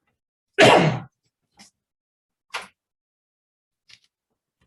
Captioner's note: someone coughs